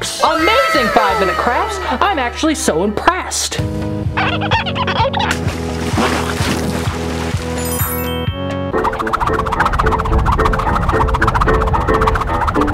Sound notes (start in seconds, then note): 4.2 squeaking sound effect; 5.3 splash sound effect; 7.5 reveal sound effect; 8.8 fast movement sound effect